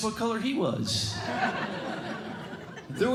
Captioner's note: laughter